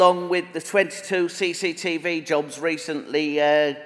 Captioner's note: none